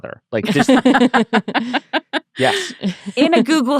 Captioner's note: laughing